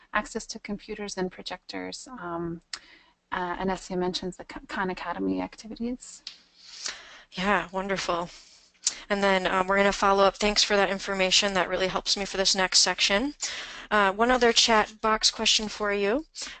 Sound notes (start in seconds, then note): 7.4 voiceover